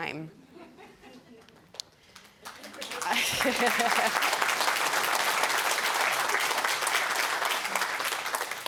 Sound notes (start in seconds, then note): 2.9 chuckling; 4.1 applause